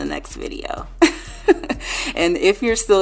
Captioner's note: laughing